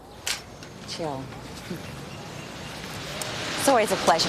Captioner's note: chuckles